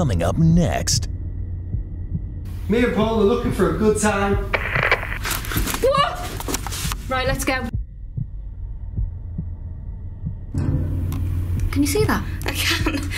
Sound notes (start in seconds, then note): 6.1 yelling